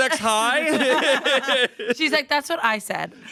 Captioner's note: everyone laughs